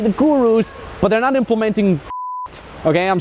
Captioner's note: beep